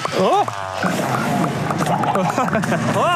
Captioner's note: grunting